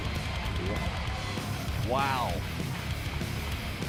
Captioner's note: crowd cheering